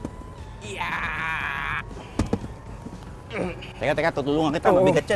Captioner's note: groans